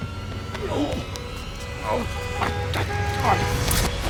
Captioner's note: grunting